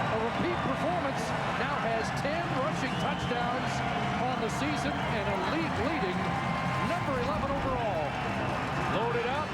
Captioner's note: cheers and applause